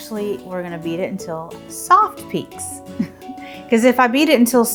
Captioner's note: chuckles